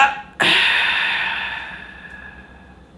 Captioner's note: exhales